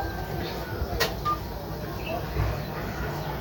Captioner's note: dial pad tone